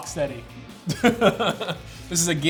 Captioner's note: laughs